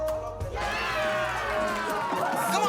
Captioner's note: cheering